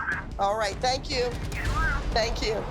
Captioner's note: on phone